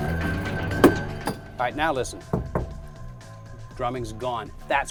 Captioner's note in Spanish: Golpeando, amortiguado por el aislamiento acústico